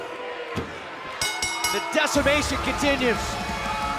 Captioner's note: bell